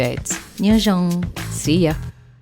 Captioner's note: non-English language spoken